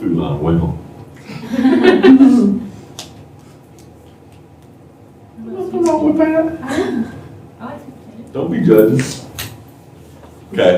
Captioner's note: laughter